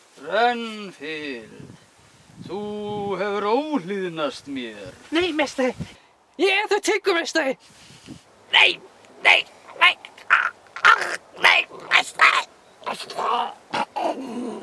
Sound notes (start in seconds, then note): 10.7 choking